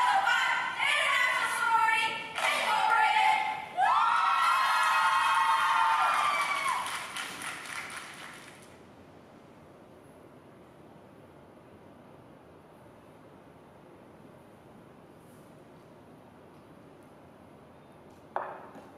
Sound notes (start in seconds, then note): 5.0 recorded crowd cheering and clapping